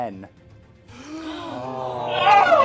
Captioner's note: gasps